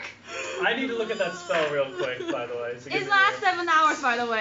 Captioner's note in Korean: 흐흐ㅡ으으으ㅓ어어어ㅓ엉엉엉